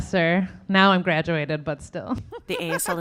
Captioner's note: laughing